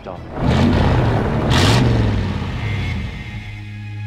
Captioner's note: engine rumbling